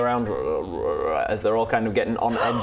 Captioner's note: frog murmurs